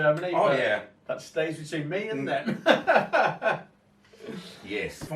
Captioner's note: laughs